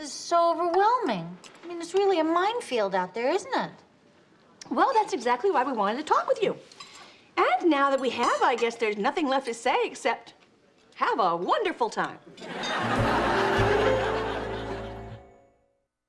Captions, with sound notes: This is so overwhelming. I mean, it's really a minefield out there, isn't it? - Well, that's exactly why we wanted to talk with you. And now that we have, I guess there's nothing left to say except have a wonderful time. (audience laughs)